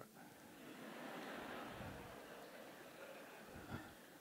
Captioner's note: audience laughs